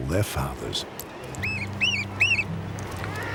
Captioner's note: bird chirping